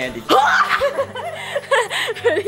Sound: girl laughing; girl grunting

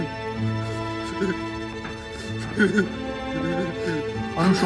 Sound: crying

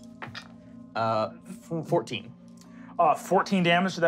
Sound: rolling dice

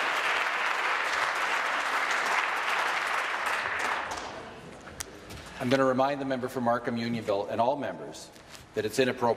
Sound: applause

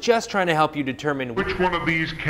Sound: slowed, distorted voiceover

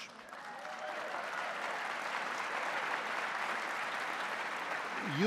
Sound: audience applauding

